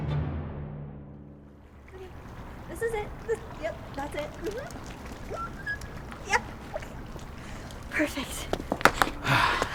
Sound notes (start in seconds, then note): 5.3 Gigi squeals